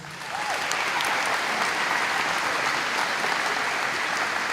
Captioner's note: audience applauding